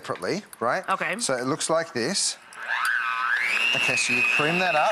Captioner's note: mixer whirs